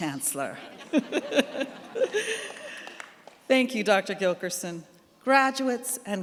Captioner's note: laughs